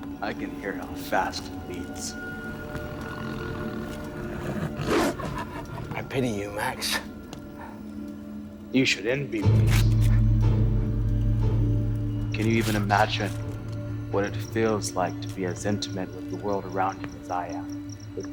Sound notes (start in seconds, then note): 4.5 dog barking